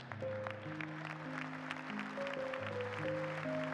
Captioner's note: applause